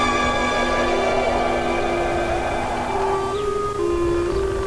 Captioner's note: wind howling